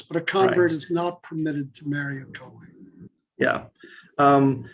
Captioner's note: Hebrew